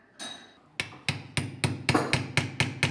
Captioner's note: hammering